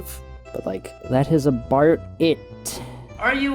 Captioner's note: in Australian accent